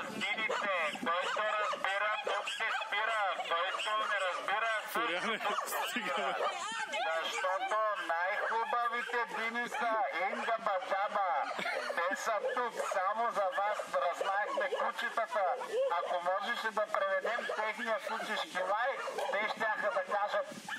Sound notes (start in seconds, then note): 7.8 Florian, over megaphone